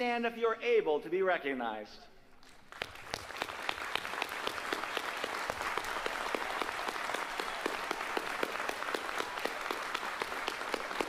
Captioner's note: applause